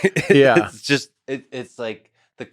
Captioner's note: Lex laughs